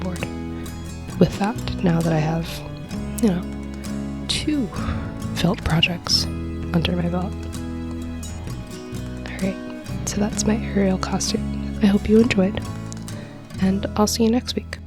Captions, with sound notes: I need to go back to the drawing board with that. Now that I have, you know, two *foam* projects under my belt. And that's my Ariel costume! Hope you enjoyed, and I'll see you next week!